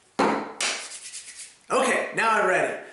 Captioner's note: rubbing hands